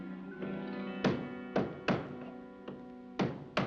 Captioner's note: banging